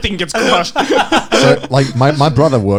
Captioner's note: laughing